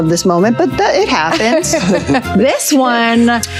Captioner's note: Tina laughing